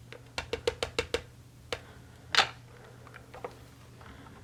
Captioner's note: tapping ink pad